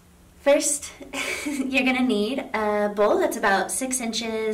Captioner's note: chuckles